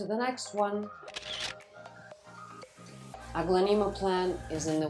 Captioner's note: camera snapping